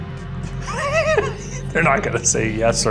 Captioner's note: Ryan and Shane laughs